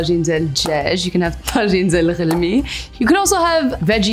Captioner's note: foreign language